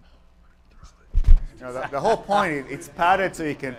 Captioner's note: laughter